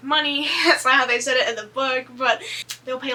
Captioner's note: laughs